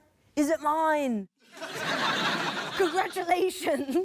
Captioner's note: laughter